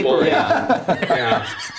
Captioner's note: laughter